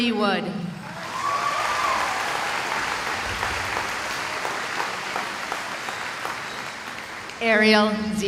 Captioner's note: cheering